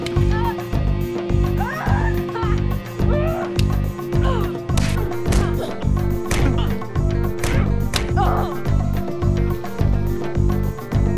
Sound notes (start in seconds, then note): 4.5 smacking; 8.0 woman groaning